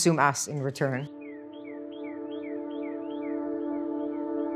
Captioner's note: birds chirping; tranquil music